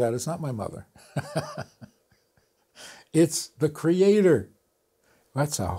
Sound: laughs

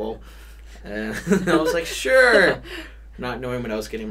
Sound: both laugh

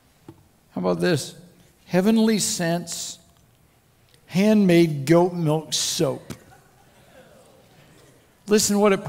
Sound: crowd Laughter

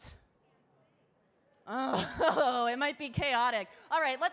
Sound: laughs

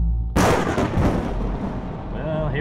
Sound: thunder rumbling

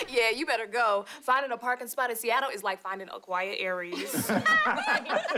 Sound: laughing

